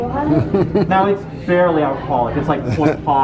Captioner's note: laughs